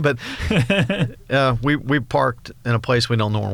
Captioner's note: laughs